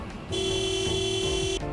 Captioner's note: horn honking